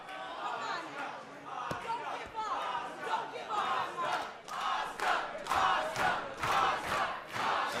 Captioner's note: fans chanting